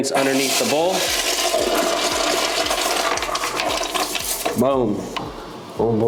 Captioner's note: toilet flushing